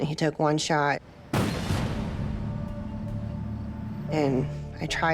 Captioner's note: gun firing